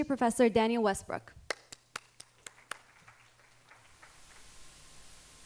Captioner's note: audience applauding